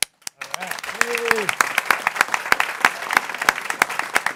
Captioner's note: people clapping